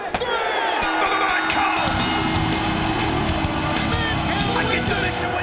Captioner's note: bell rings